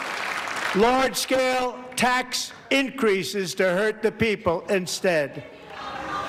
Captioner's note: applause